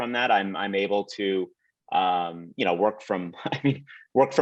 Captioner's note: laughs lightly